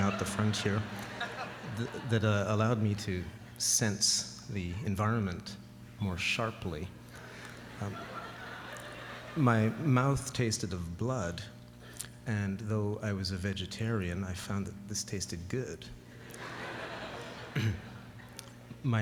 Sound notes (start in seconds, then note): 7.2 laughter; 16.2 laughter